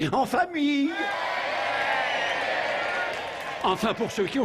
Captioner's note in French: applaudissement public